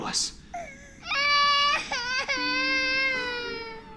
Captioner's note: crying